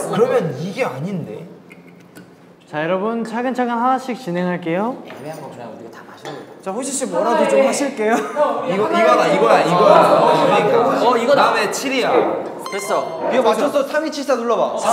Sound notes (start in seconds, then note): 9.4 boisterous and loud